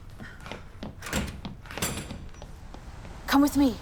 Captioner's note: running, breathing; door opening to outside